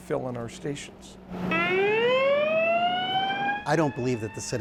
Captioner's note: siren wailing